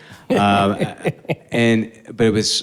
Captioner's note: chuckles